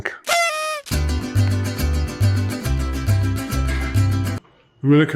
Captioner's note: party blower toots